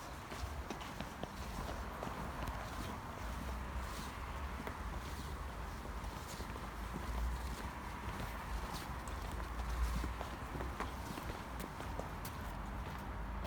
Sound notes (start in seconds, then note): none